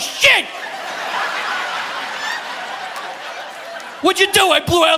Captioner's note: audience laughing